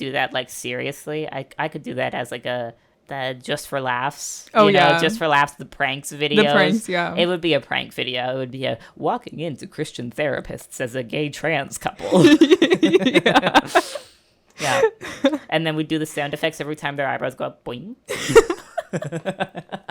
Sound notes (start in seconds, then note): 18.1 laughter